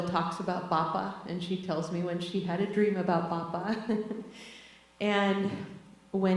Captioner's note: laughs